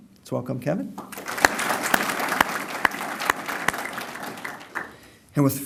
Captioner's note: applause